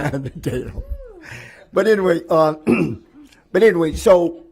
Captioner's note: laughter